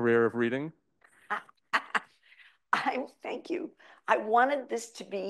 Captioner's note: laughs